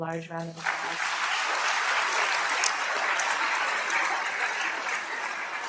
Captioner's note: applause